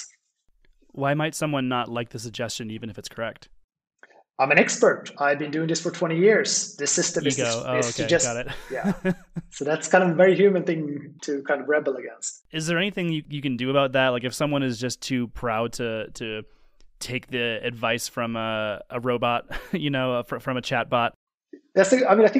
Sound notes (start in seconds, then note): 8.3 laughter